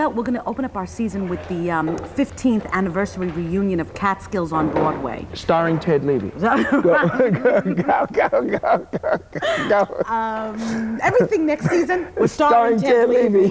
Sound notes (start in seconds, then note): 6.4 laughing